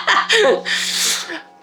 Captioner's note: laughing